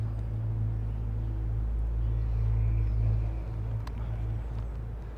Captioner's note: students chattering